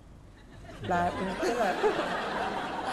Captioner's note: laughing